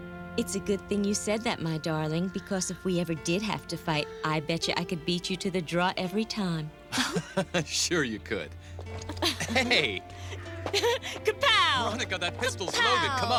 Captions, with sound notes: It's a good thing you said that, my darling, because if we ever did have to fight I betcha I could beat you to the draw every time. (CHUCKLES) Sure you could. - (LAUGHS) - Heh-hey! - (GIGGLES) Ka-pow! Ka-pow! - Veronica, that pistol's loaded!